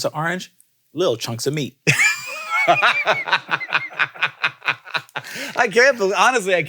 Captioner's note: laughs